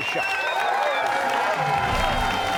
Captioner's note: cheers and applause